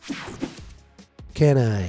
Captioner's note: screen whooshing